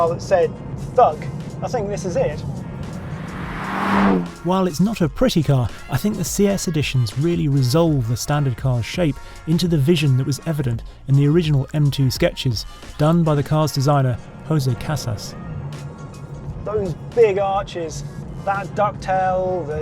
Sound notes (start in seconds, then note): 2.3 vehicle revs